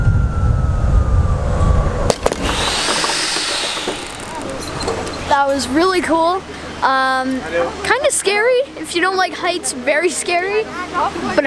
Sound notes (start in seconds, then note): 2.1 metallic whir